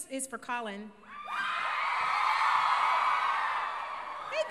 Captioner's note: crowd cheers